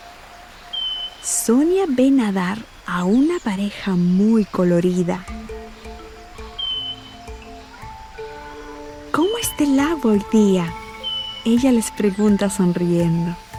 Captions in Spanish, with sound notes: (pájaros trinando) Zonia ve nadar a una pareja muy colorida. (música clásica) –¿Cómo está el agua hoy día? – ella les pregunta sonriendo.